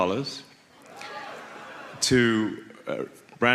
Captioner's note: audience gasps